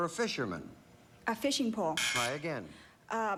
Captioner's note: buzz buzz